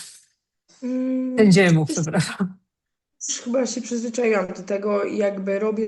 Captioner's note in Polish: śmiech